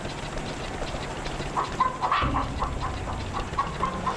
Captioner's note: chickens clucking